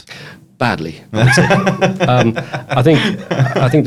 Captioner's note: laughs